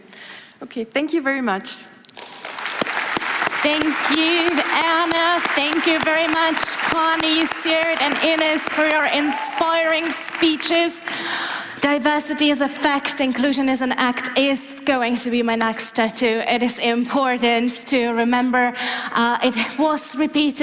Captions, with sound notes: the specific landing page on our Volt information platform, the VIP. Thank you very much. (Applause) >> Thank you Anna, thank you very much. Thank you all for your inspiring speeches. Diversity is a fact, inclusion as an actor is going to be my next tactic, and it is important to remember